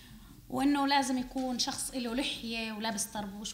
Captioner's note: speaking arabic